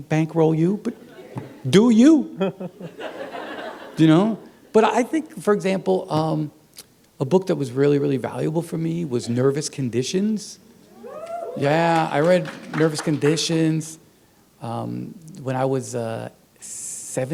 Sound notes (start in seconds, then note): 2.3 laughter; 11.6 applause